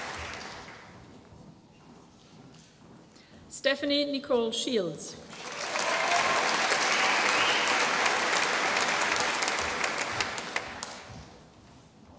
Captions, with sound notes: Stephanie Nicole Shields. (APPLAUSE)